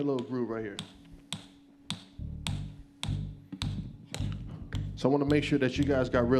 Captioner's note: tapping